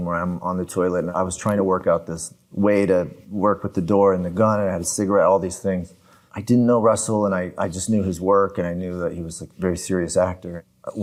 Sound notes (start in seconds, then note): none